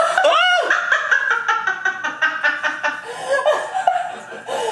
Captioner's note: laughs